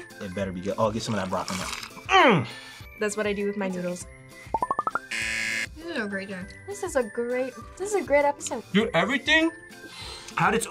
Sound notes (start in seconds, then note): 5.0 buzzer